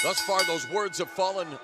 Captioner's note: bell ringing